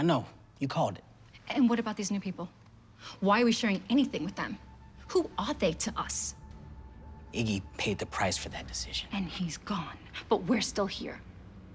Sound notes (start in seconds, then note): none